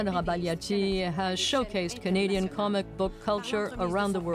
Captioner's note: speaking French